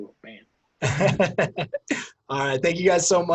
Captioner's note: laughs